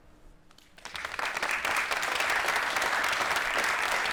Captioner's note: applause